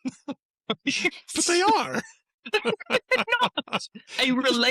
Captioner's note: laughter; laughter